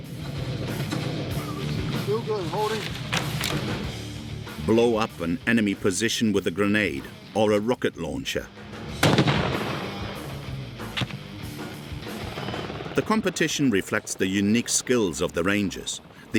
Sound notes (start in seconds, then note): 1.2 upbeat music continues; 8.9 launcher booming